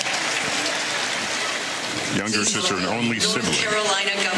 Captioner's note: applause